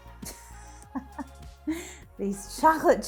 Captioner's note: laughs